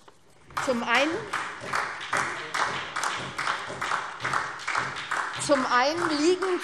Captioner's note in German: Beifall SPD